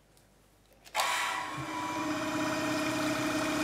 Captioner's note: loud whirring and bubbling